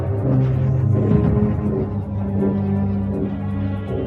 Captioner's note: booming